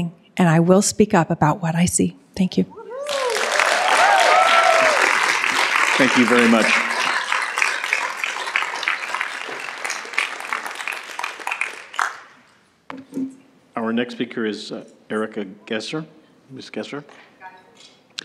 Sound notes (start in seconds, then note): 2.9 cheering and Applause